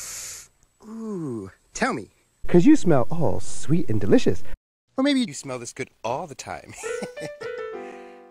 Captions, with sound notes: Ooh, Tell Me? Cause You Smell All Sweet And Delicious Or Maybe This Smell This Good All The Time (Chuckles)